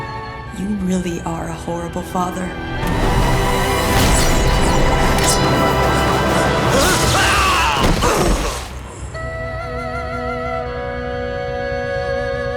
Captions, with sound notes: You really are a horrible father. [groaning]